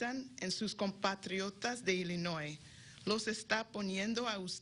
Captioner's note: speaking in spanish